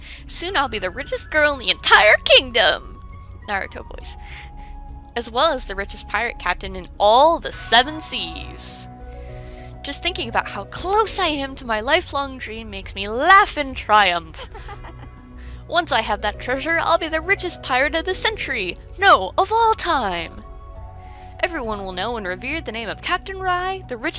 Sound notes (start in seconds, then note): 9.0 deep inhale